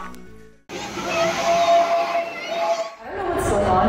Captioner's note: magic sound effects & crowds cheering